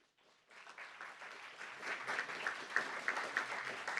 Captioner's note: applauds